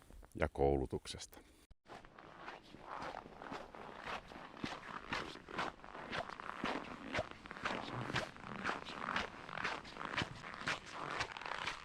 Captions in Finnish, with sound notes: ja koulutuksesta. [luistelun ääntä]